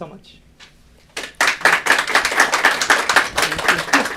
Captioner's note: applause